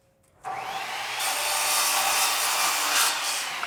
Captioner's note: whirring